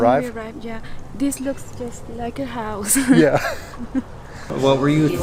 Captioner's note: laughs